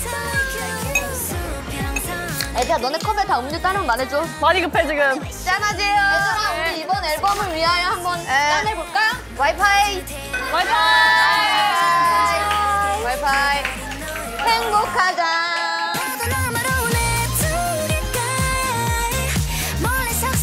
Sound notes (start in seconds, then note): 10.4 long distance cheers